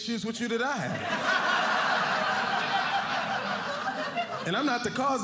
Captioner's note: audience laughing